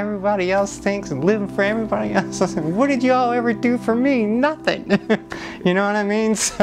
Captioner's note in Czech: smích